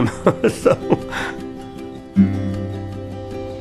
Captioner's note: laughing